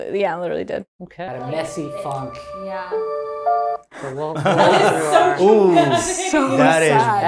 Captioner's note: sad music; laughing